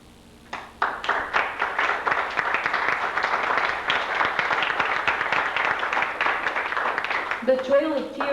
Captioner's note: applause